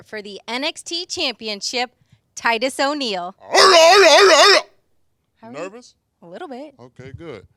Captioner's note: shouting